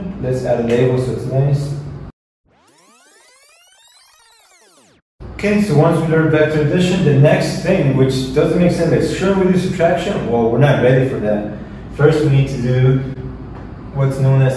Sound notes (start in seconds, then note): 2.4 fast-forward whirring